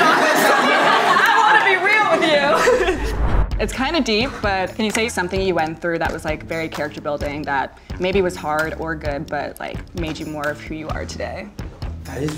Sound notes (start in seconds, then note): 0.0 everyone laughs; 2.4 whooshing